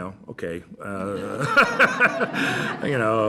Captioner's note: laughter